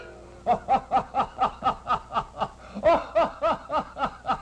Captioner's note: laughter